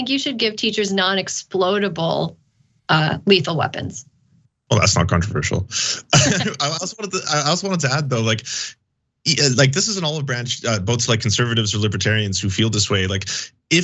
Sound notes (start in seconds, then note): 4.7 laugh